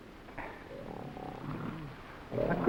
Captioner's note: gorilla grunting